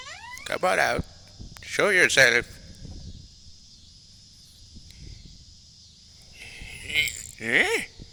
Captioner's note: grunting